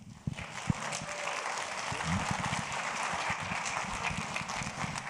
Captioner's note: audience applauds